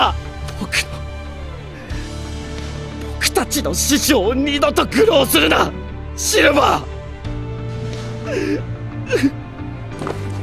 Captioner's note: cries